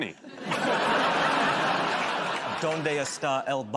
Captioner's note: laughter